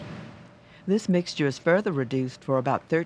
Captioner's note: voiceover